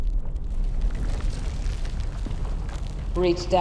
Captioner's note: crumbling